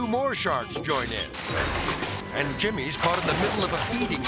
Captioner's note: water rustling